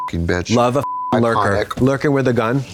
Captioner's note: beep